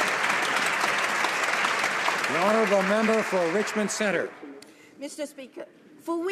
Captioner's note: some Applause